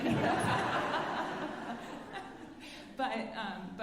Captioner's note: alumni laughing